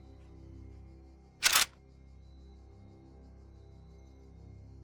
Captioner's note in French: claques de pistolet